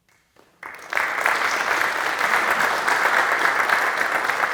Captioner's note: audience clapping